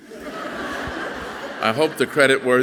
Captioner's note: audience laughing softly